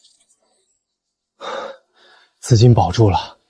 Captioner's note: sighs